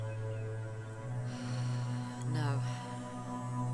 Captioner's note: sighs